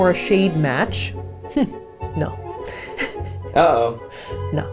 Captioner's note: laughs